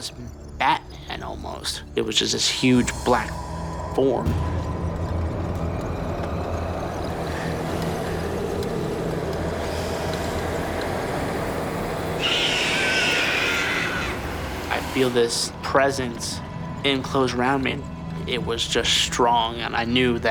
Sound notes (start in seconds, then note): 2.9 eerie music; 10.3 Andrew screams